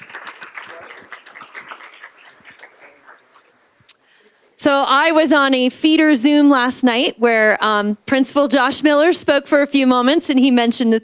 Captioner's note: applause